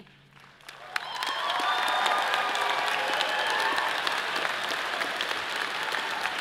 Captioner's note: audience cheers and applause